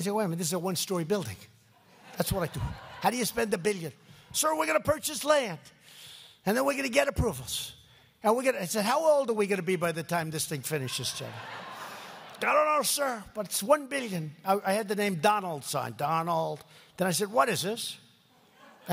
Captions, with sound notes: minute, this is a one-story building." (laughter) That's what I do. How do you spend a billion? "Sir, we're going to purchase land, and then we're going to get approvals. And we're going to..." I said, "How old are we going to be by the time this thing finishes, General?" (laughter) "I don't know, sir, but it's $1 billion." I had the name "Donald" signed. "Donald." Then I said, "What is this?"